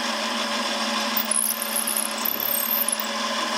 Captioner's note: shrill squeaking drilling noise